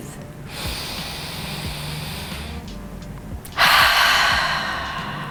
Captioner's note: inhaling; exhaling